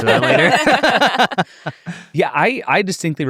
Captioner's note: all laughing